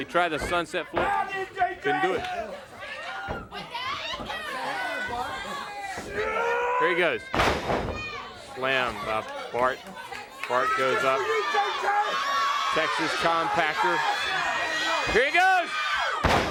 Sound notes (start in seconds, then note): 0.1 crowd chatter; 7.8 crowd cheering